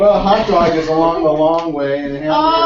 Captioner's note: laugh